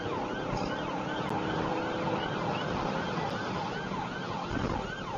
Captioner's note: engine accelerating